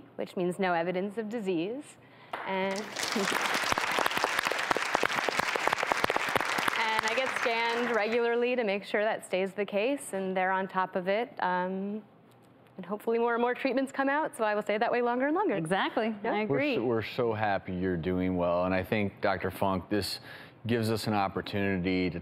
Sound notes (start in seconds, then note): 2.6 audience applause